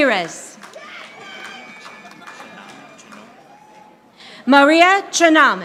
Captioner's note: audience applauding